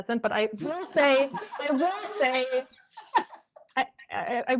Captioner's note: laughter